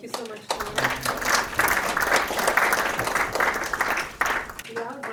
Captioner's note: audience applauding